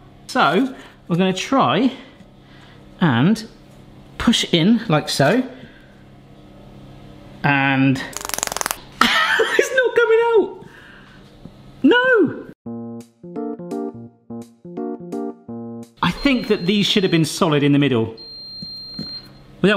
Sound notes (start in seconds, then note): 8.1 laughs; 12.6 playful music